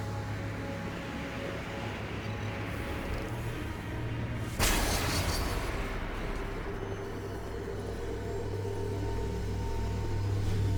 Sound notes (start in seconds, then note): 4.6 glass shattering